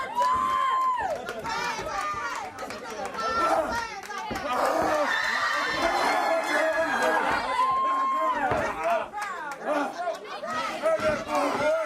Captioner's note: crowd cheering